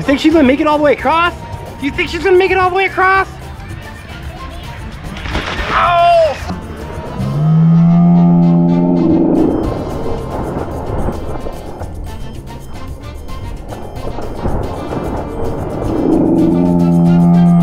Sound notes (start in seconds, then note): 5.1 splash; 8.3 slow motion voices